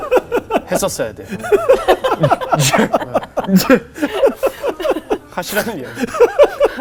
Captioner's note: laughing